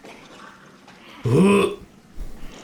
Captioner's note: grunts